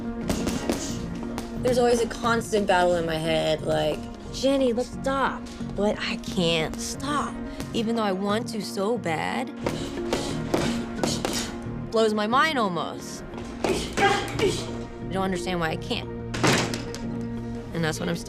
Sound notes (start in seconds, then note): 13.6 grunting